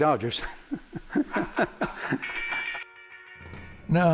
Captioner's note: chuckles